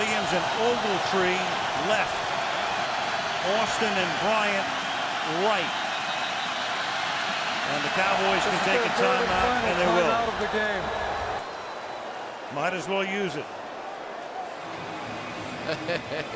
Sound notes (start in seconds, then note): 5.6 whistles